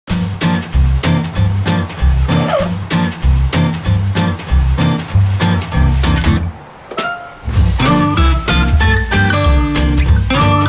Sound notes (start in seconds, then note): 0.1 upbeat music; 2.3 machine squeaks; 3.2 upbeat music continues